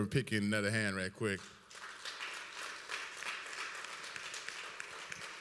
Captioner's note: applause